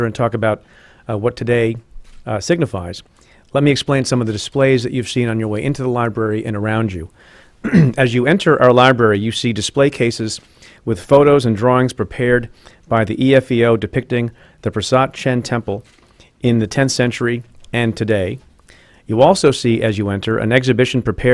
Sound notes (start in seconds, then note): 7.6 clears throat